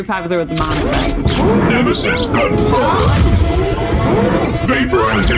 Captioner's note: voice deepens as he unleashes an arsenal of weapons